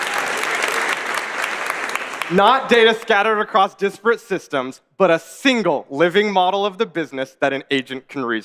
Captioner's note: applause